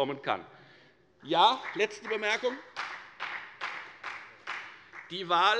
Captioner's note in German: Beifall bei der FDP